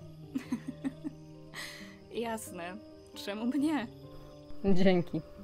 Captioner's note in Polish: lekki śmiech